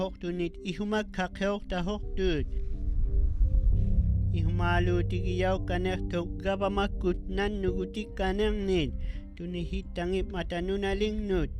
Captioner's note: speaking inuktitut